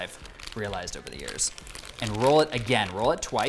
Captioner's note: plastic rustles